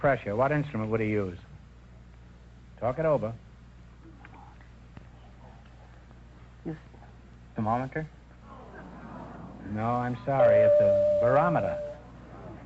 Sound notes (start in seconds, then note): 4.1 whispering; 8.4 audience groans